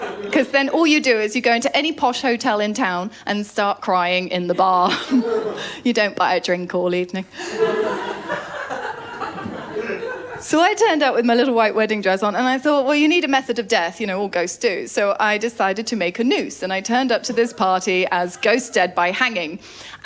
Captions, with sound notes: ‘Cos then all you do is you go into any posh hotel in town and start crying in the bar. You don’t buy a drink all evening. [LAUGHTER] So I turned up with my little white wedding dress on and I thought, “Well, you need a method of death.” You know, all ghosts do. So I decided to make a noose. And I turned up to this party as ghost dead by hanging.